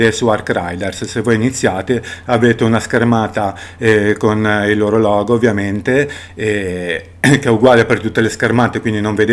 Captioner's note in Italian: schiarire la voce